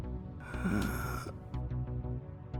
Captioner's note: groaning